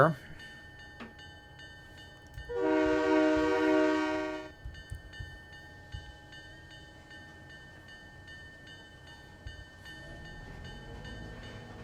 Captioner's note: train whistle